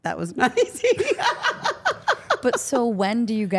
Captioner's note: Steph laughing